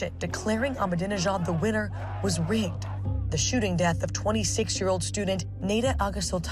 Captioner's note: crowd chanting